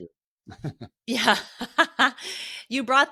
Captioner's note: laughs